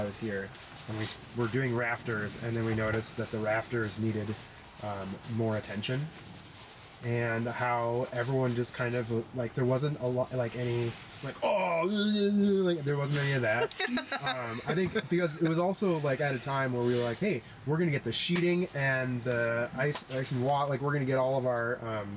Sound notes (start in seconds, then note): 11.0 sounds of existencial crisis